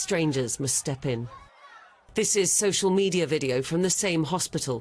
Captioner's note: crying